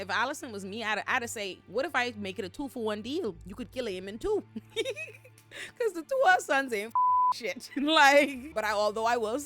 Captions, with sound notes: Allyson was me out of say, what if I make it a two for one deal? You could kill him in two. Cause the two of sons ain't (beep) shit. But although I will